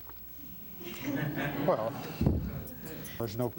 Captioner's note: crowd laughing